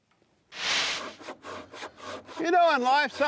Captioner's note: saw scrapes